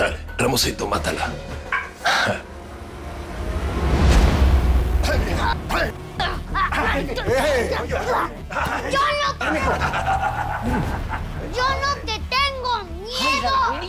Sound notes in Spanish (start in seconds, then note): 5.2 Gritos